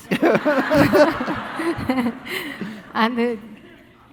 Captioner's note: all laughing